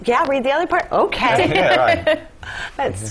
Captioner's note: laugh